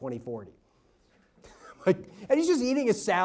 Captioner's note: laughs